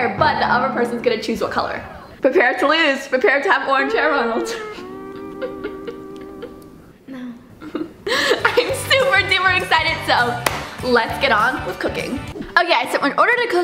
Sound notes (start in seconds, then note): 3.7 laughs; 3.8 quirky music; 10.4 claps